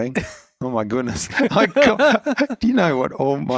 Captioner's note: laughing